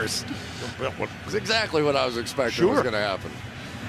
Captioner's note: chuckles